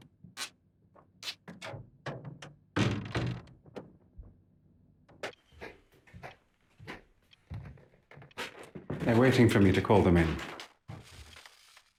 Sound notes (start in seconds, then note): 1.9 door creaking